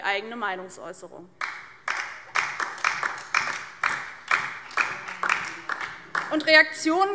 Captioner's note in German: Beifall DIE LINKE